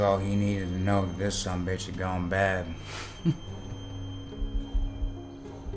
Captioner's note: chuckles